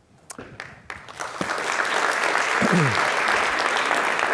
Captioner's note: audience applauds